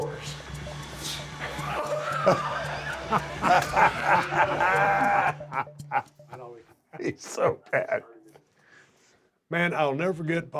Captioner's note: laugh